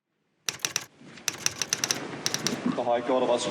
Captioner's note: typewriter typing